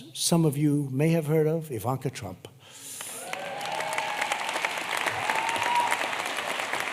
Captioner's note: applause